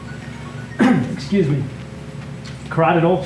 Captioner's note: coughs